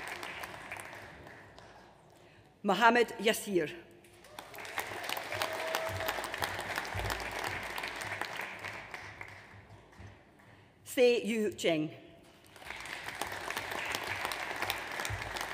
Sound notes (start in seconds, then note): 4.2 audience applauds; 12.4 audience applauds